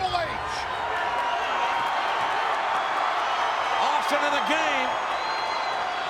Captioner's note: applause